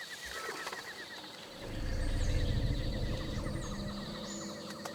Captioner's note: growling